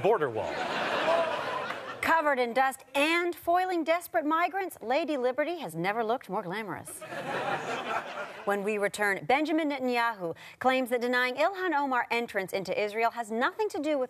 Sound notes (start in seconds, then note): 8.5 audience laughter